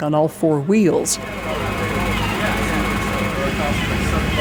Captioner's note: machinery drones